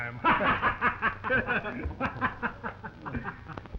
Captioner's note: all laughing